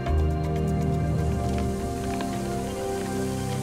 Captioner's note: locusts fluttering